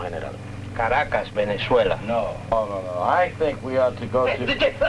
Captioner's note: speaking spanish